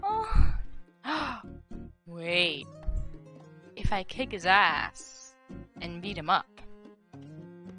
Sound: gasps

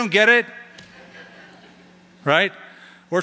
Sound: chuckling

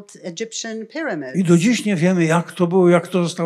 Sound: foreign language

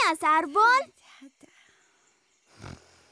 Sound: snoring

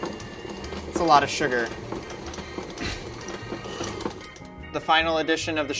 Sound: coughs lightly

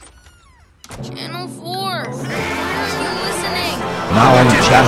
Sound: crowd laughs

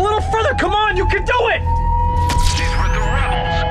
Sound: SOUND: Killik fires Najaah's Energy Pistol at the Troopers

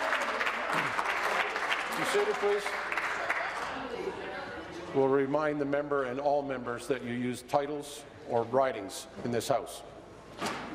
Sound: some Applause

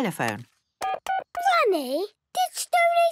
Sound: dial tones beeping

